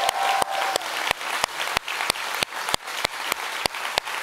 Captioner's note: audience applauds